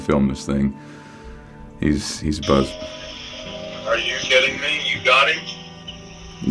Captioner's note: sound of phone dialing